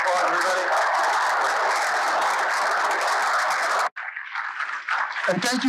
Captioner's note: applause